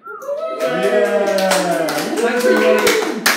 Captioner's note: participants cheer and applaud